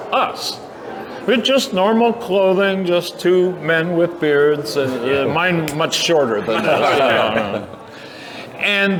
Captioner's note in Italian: risate